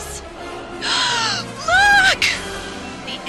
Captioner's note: gasps